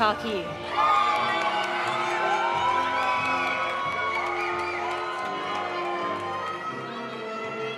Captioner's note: audience applauding; audience cheering